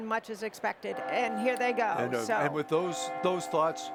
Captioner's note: bell ringing